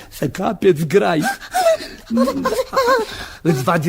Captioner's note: the woman sighs impatiently